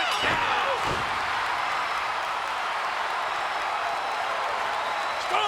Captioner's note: crowd cheering